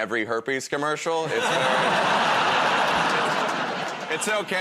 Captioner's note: laughter